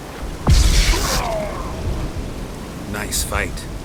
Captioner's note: cries out